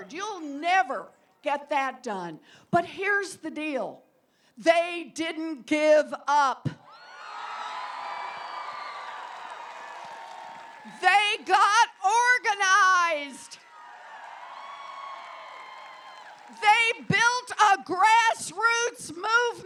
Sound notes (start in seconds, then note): 6.9 applause